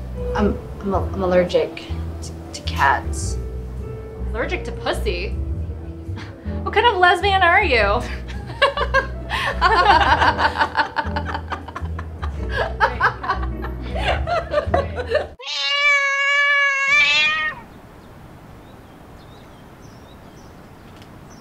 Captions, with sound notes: I'm... I'm allergic to --- to cats. Allergic to pussy? [snigger] What kind of lesbian are you? [laughs] [cat's long meoow]